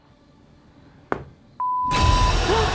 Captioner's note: knocking